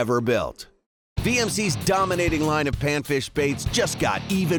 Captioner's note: voiceover